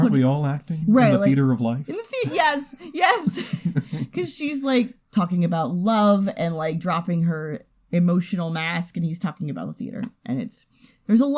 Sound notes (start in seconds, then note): 3.2 chuckles